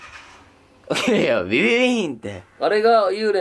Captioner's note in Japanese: エンジン音